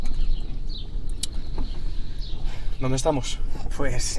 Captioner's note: chirping